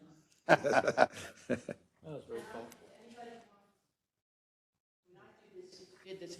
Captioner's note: laugh